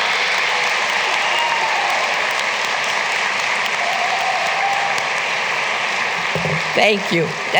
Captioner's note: applause